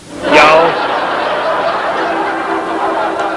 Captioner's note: laughter